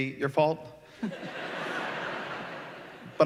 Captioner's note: laughter